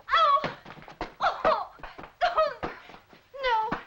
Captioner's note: Annette crying